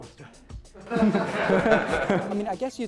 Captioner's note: laughter